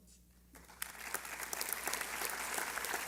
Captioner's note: applause